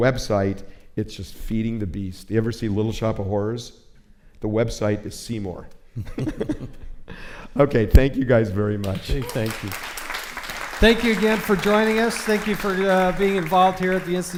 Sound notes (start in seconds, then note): 8.8 applause